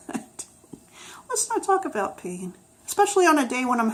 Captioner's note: laughs